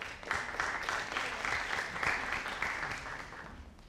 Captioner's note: audience applauding